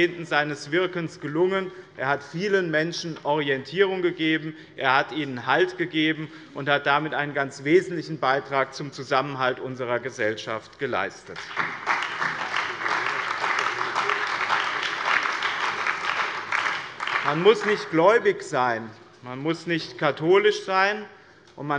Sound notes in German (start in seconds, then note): 11.3 Beifall bei dem BÜNDNIS 90/DIE GRÜNEN und der CDU